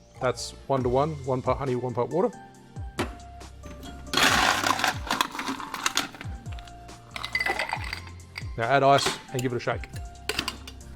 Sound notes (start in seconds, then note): 3.7 ice clattering